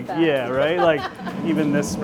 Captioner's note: laughing